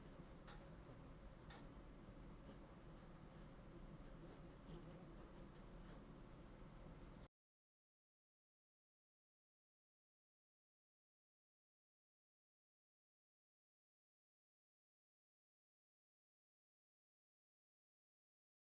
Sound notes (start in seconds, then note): 5.1 silence